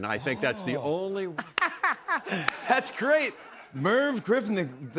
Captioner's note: laughing